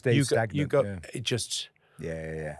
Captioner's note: exhales